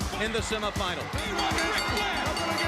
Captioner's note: bell ringing